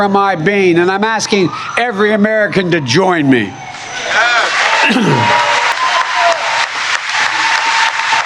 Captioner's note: cheering and applause